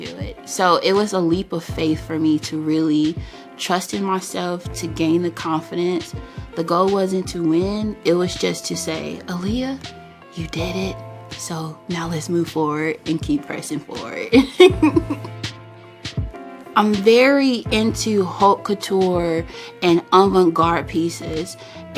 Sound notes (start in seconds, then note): 14.3 laughs